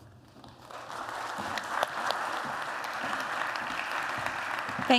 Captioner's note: applause